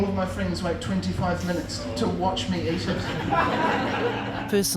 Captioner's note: laughter